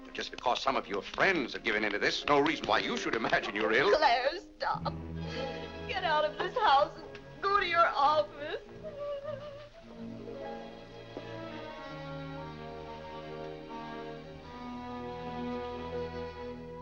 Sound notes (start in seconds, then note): 8.5 weeping; 11.0 soft sad music